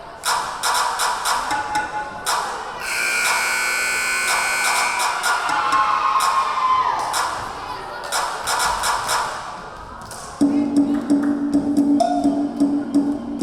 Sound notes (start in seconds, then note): 2.8 buzzer blaring; 6.3 rhythmic drumming